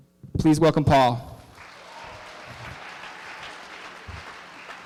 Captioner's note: applause